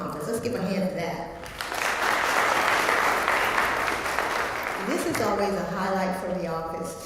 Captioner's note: applause